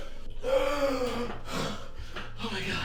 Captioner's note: gasping